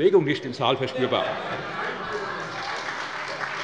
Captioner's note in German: Heiterkeit und Beifall bei der SPD